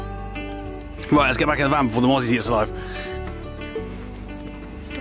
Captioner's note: mosquitos